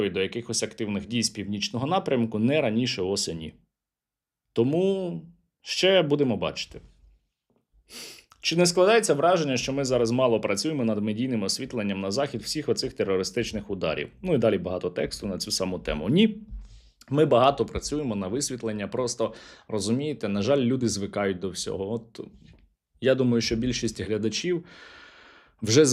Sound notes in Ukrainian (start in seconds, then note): 7.8 сопіння